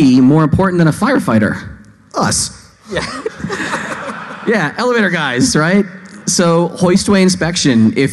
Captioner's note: laughing